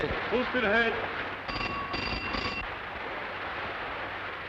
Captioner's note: ringing